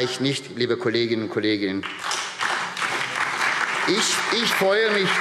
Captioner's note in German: Beifall SPD, DIE LINKE und Freie Demokraten